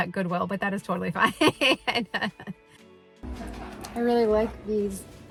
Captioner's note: laughs